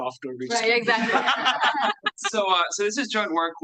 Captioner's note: students laughing